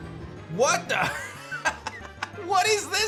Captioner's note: laughs